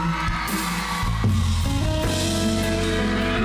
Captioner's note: cheering, applauding